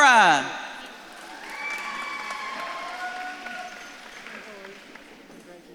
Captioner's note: audience claps and cheers